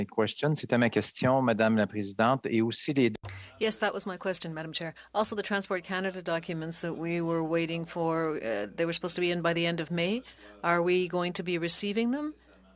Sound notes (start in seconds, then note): 7.3 speaking French